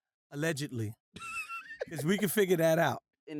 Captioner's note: laughter